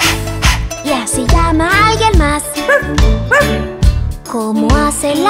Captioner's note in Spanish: Ladrido